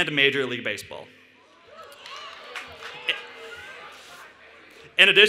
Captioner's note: cheering and Applause